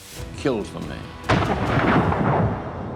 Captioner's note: gunshot